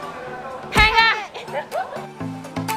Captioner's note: chop